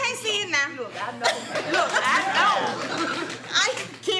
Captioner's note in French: Rires et applaudissements